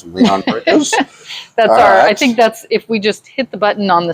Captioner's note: laughs